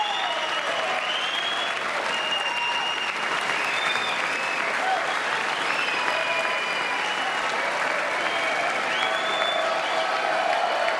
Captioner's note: applause